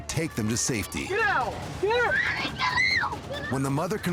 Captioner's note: kid screams